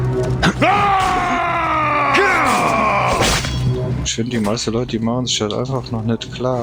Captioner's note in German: stöhnen; schreien